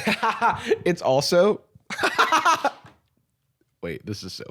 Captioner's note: laughs; laughs